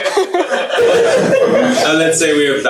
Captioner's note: laughter